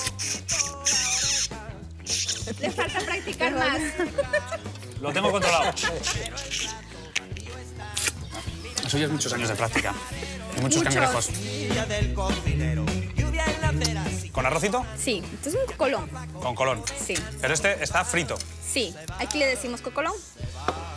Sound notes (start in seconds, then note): 2.0 laughing